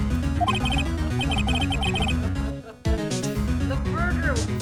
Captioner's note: definitely not evil laughter